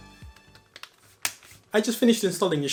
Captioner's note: snap